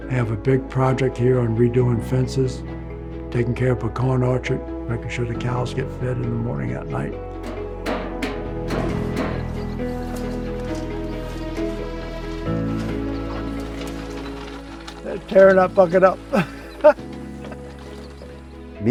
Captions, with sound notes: I have a big project here on redoing fences, taking care of a corn orchard, making sure the cows get fed in the morning and at night. (lid clanking) (soft dynamic music) They're tearing that bucket up. (laughs)